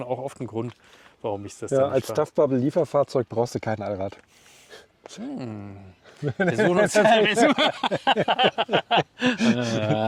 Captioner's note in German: gelächter